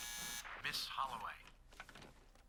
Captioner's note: buzzer